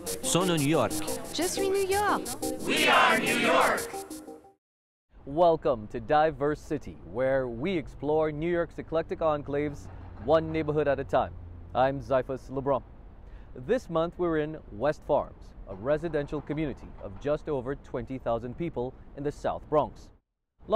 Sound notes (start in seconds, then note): 2.2 French